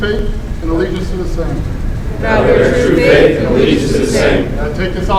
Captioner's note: commissionees repeat